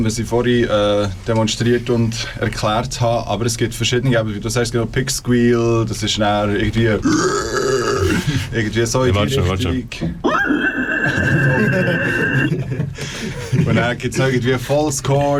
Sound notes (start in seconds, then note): 10.2 pig orgasm noises